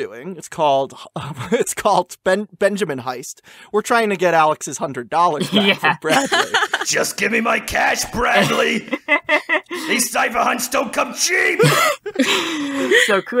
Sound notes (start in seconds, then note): 6.8 in Grunkle Stan's voice